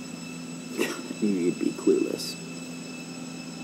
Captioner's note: scoffs